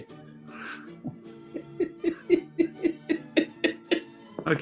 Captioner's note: giggling